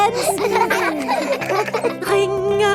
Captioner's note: giggling